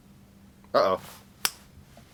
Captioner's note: snap!